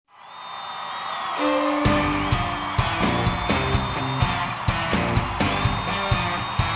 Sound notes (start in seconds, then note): 0.0 crowds cheering; 1.4 guitar intro